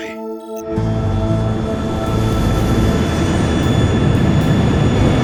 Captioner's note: plane engine roars